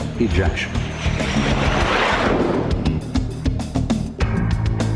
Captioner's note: jet engine roars; upbeat music